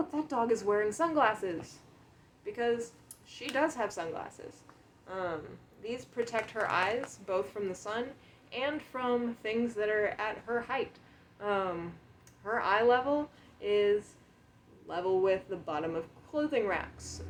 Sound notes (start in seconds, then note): 6.2 clicking noises of nails on the lens